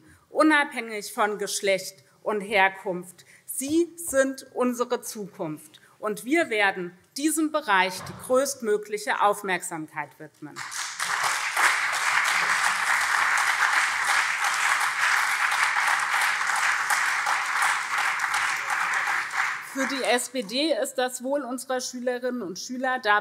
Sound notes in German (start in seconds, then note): 10.5 Beifall SPD und CDU